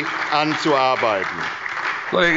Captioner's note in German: Beifall bei der SPD